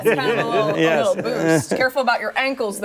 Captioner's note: laughter